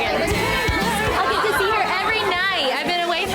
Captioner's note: upbeat music; women cheering